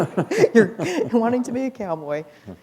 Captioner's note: laughter